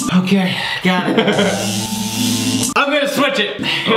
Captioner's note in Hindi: इलेक्ट्रिक बज